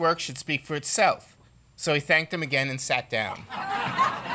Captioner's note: laughter